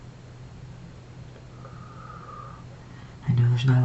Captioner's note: exhales